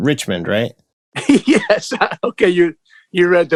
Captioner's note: laughter